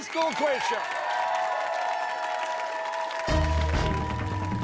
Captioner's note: cheers and applause